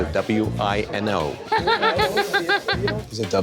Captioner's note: laughter